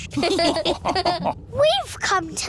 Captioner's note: all laughing